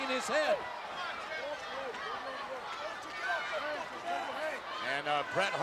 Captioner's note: crowd chattering